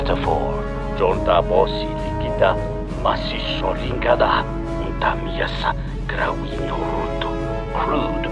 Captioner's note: Speaking in Twi'leki